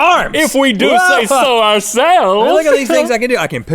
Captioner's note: laughs